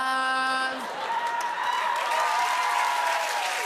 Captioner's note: cheers and applause